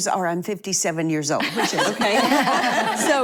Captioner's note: laughing